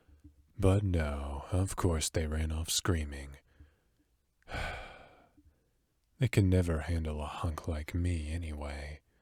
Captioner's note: sigh